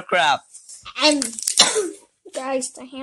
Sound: cough

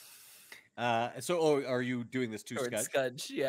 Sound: chuckling

